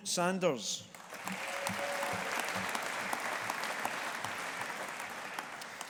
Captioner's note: audience applauding